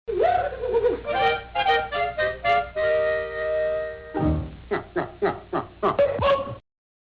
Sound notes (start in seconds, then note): 0.9 old-time music; 4.6 Three Stooges-type laughter